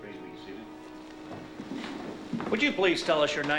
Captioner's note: scoffs